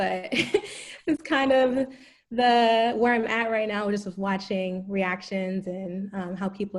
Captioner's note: laugh